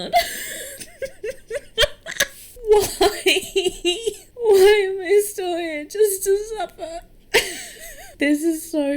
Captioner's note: laughs; sobbing; laughs